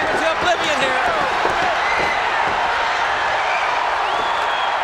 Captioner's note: crowd shout